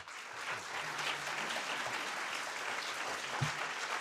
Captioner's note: audience applauding